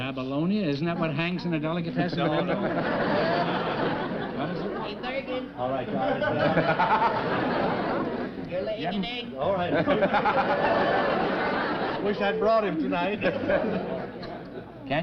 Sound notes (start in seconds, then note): 1.9 chuckling; 5.0 throwing his voice; 6.1 laughter; 8.0 throwing his voice; 9.6 laughter